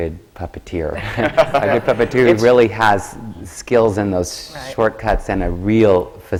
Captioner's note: laughs